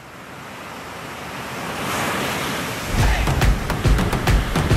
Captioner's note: ocean waves crashing